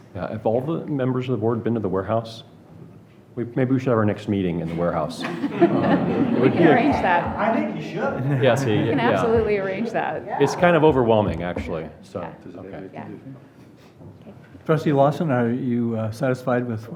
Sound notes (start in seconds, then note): 4.7 audience laughs